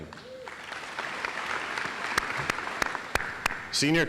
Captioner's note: audience applauds